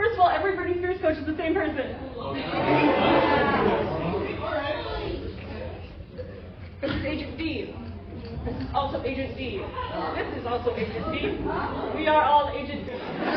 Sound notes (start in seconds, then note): 6.0 confused laughter